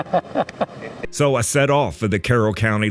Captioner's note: off camera laughter